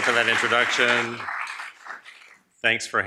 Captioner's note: audience applauds